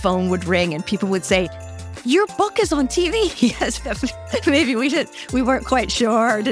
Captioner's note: laugh